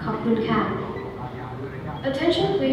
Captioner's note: electronic bleeps